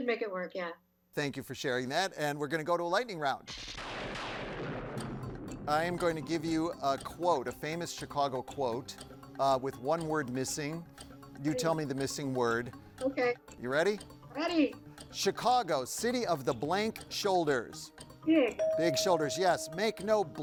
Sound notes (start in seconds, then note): 3.5 lightning crashes; 18.4 tone chimes